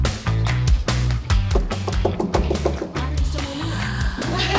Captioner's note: pop music; knocking; group laughing